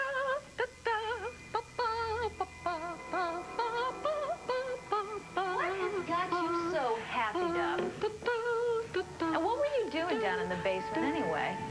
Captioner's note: allison hums